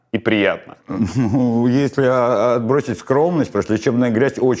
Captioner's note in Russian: Усмехаясь